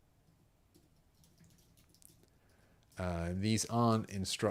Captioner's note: typing